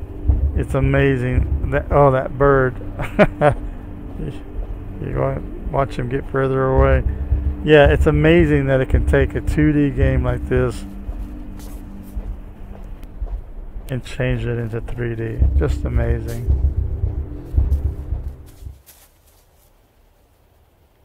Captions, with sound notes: It's amazing. Oh that bird! (Laughs) Watch him get further away. Yeah, it's amazing that it can take a 2D game like this and change it into 3D. Just amazing.